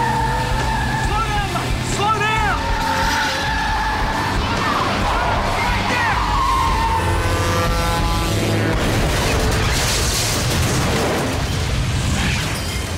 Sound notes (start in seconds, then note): 6.1 honking; 8.7 crashing